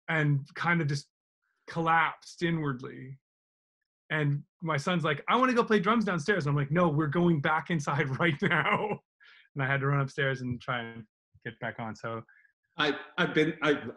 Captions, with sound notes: and kind of just collapsed inwardly and my son's like, "I want to go play drums downstairs." I'm like, "No, we're going back inside right now." (laughs) And I had to run upstairs and try and get back on.